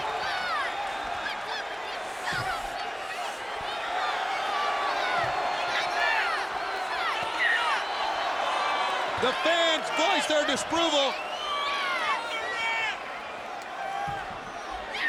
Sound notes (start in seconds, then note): 4.5 audience jeers